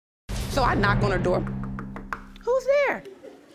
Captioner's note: knocks on table